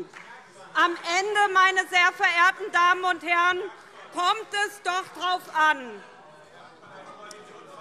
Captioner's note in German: Heiterkeit und Beifall SPD - Zurufe AfD und BÜNDNIS 90/DIE GRÜNEN